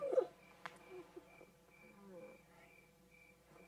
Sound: whimpers

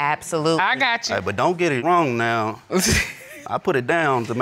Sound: laughs

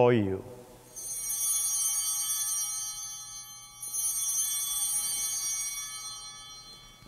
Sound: bell ringing

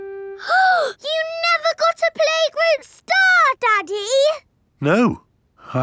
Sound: gasps

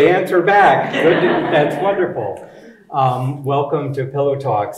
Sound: audience chuckling

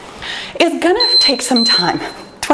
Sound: timer beeping

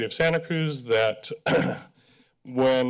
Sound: clears throat

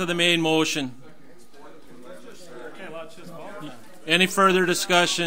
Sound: overlapping chattering

